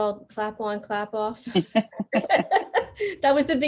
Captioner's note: both laughing